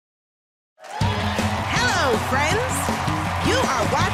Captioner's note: cheering and applause